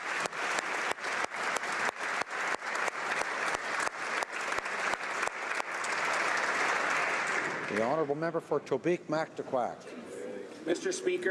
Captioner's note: applause